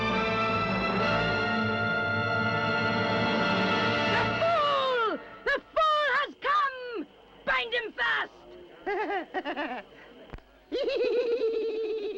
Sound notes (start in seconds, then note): 8.6 cackling